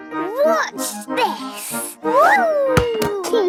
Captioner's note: snorts